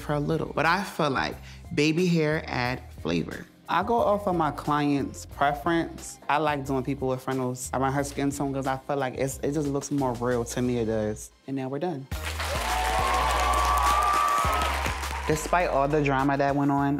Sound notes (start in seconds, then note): 12.1 cheers and applause